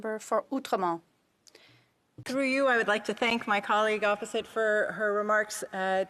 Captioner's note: speaking French